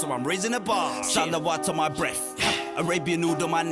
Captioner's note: non-english